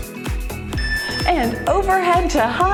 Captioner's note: timer beeps